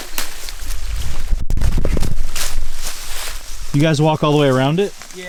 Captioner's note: leaves rustling